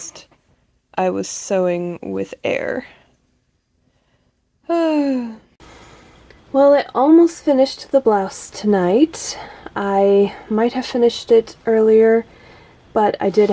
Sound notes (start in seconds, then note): 4.7 sigh